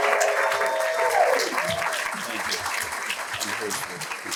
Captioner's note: applause